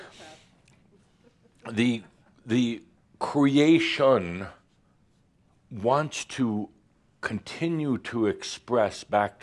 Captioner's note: some chuckles